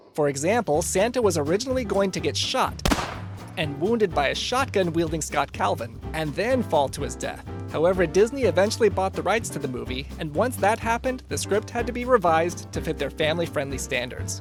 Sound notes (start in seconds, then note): 2.8 gun firing